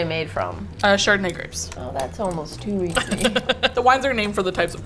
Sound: laughs

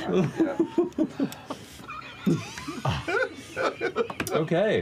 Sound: chuckles; giggles; wheezes, then laughs

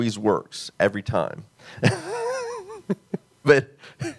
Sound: laughs

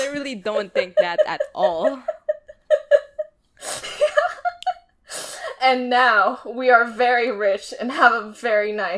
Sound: laughing

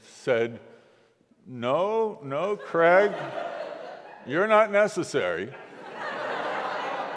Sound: laughing

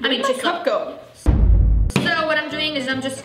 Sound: explosion

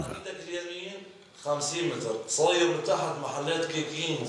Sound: Arabic spoken audio

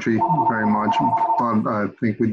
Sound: phone rings

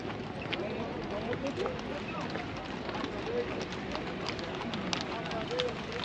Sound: people chattering; speaking in foreign language

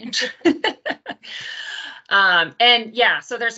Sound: both laugh

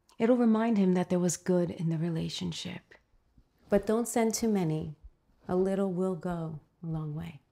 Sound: none

